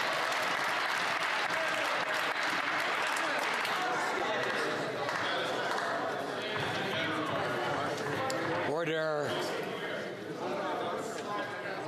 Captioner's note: some Applause